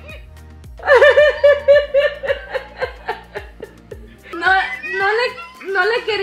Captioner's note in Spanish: La risa